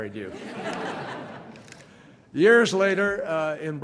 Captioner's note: laughter